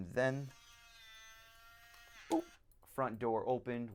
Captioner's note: buzzing